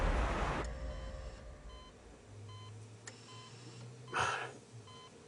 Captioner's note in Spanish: Sonido de telemetría